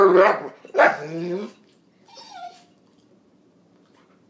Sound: excited whines and barks

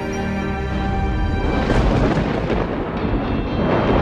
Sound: thunder rumbling

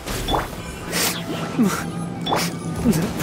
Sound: sobs

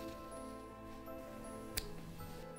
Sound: snip

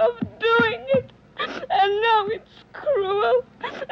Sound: sniffles

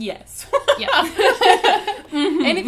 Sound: both laugh

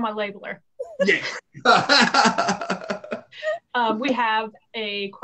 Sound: laughs

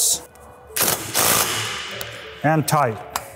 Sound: torque wrench buzzing

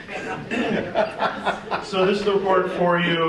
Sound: group laughing

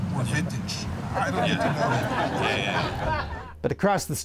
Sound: audience laughs

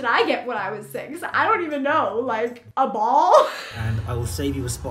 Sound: laughter

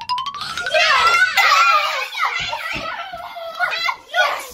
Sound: kids cheering

